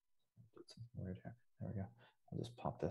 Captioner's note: voice muffling